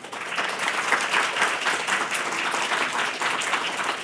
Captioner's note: audience applauding